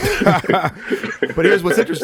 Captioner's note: Jamie and Echo laughing